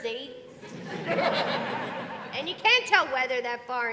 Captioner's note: audience laughing